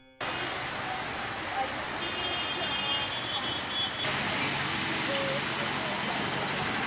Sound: engine hissing; horn honking

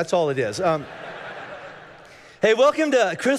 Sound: congregation laughing

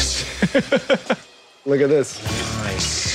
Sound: chuckles

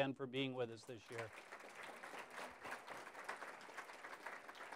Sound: applause

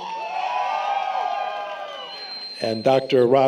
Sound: applause, Cheering

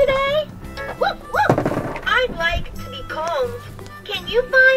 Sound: Marshall makes woof noises

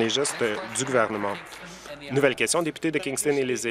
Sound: applause

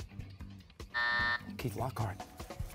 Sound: buzzer

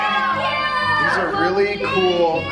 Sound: kids exclaiming excitedly

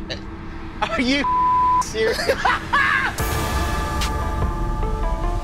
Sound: beep; laughs

